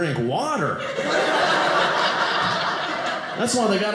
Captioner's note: audience laughing